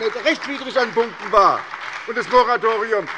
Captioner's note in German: Beifall bei der SPD